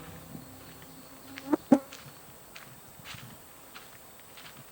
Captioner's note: bug sound